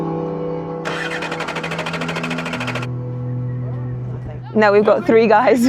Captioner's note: vehicle engine whirring